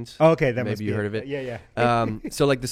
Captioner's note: laughs